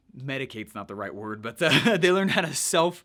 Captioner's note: laughs